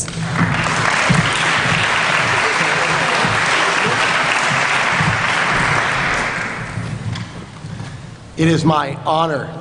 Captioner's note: applause